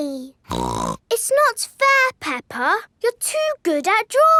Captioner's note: snorts